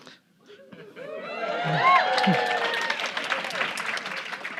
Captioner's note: audience cheering